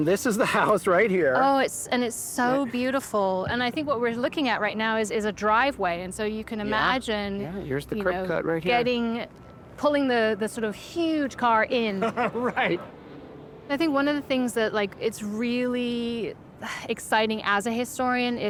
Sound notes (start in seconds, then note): 12.0 laughs